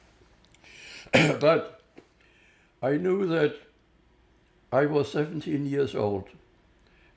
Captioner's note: coughing